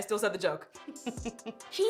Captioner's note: laughs